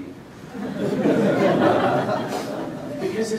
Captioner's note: laughter